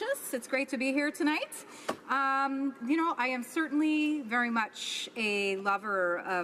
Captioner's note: speaking spanish